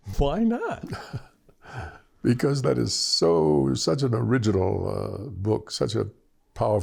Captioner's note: laughter